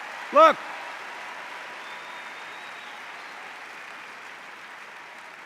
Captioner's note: cheers and applause